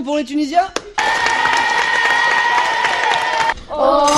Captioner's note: applause